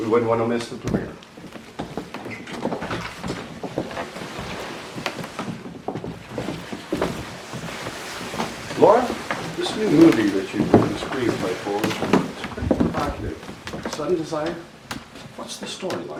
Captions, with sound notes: We wouldn't want to miss the premiere. (shuffling) Laura, this new movie that you wrote the screenplay for, looks pretty provocative. "Sudden Desire", what's the storyline?